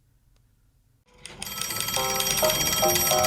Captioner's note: phone rings